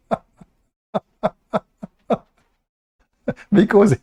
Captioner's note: Ketawa